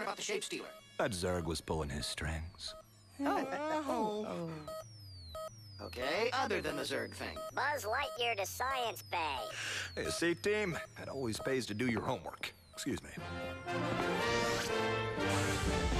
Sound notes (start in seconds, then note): 5.8 beeping